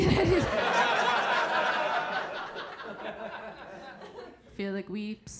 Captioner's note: audience laughing